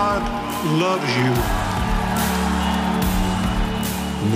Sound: cheering

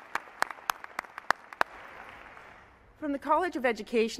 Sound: applause

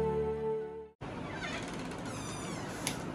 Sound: door Creaking

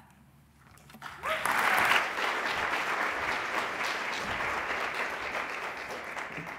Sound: applause

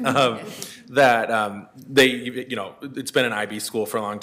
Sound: laughs

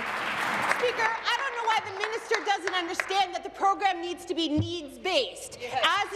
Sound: applause

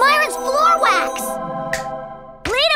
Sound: snaps fingers

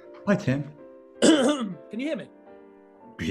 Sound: clears throat

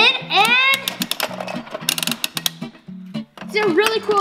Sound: clicks

